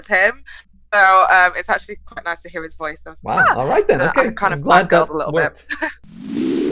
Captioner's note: chuckles